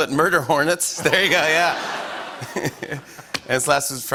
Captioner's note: laughter